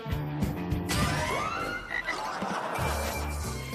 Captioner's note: croaks